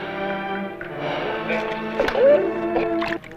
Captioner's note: non-english speech